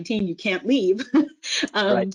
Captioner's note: chuckles